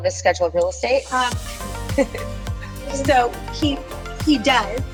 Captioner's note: chuckles